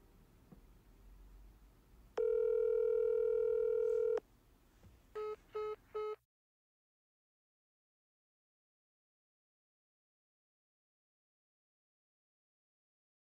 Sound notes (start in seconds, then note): 5.1 phone beeps